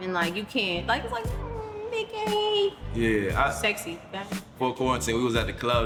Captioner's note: whimpers